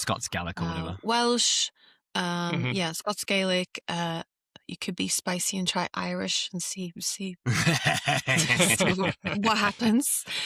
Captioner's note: laughter